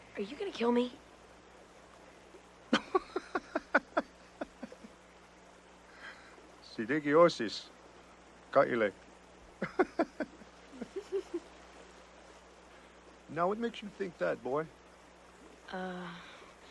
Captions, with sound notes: - Are you gonna kill me? (Skyano laughs) (medicine woman laughs) Now what makes you think that, boy?